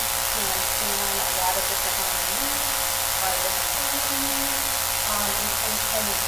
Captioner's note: buzzing drowns out speaker